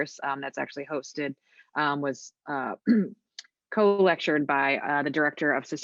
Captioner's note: clears throat